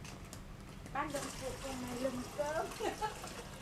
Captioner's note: laugh